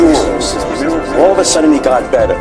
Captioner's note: echoing